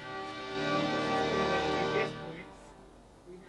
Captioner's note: chatting